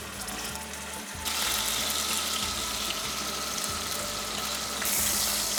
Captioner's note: sizzling sound